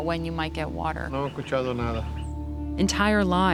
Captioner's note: speaking Spanish